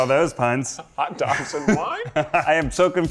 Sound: chuckles

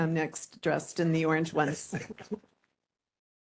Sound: laughing

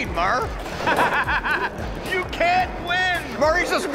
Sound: laughter

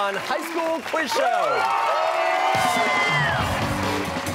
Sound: cheers and applause

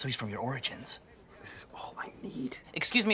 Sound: kind of whispered

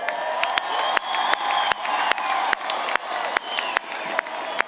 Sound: applause, Cheering

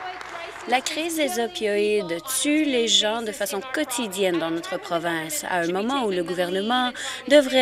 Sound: applause

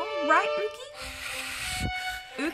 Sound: heavy breathing

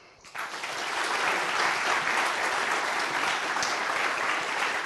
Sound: audience applauding

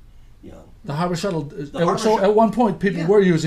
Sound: voiceover

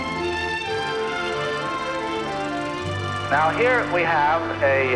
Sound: gentle instrumental music; film reel rolling

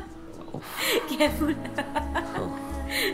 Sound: Maanu laughing; laughing

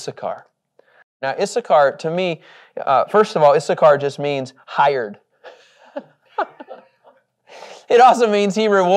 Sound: laughs

